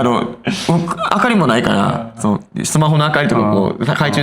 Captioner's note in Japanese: 笑い